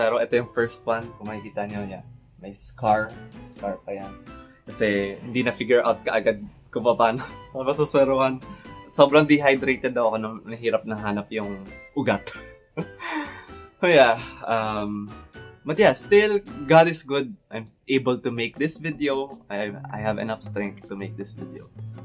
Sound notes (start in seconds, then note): 12.7 chuckles